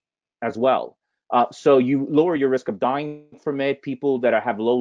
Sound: voice muffled

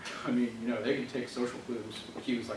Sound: none

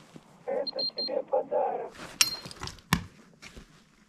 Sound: on the radio

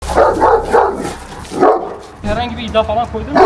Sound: barking sounds

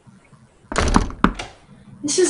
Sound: door clattering

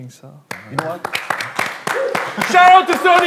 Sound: everyone clapping for him

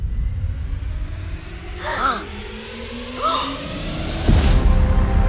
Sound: gasps

